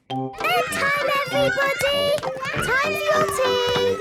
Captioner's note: children playing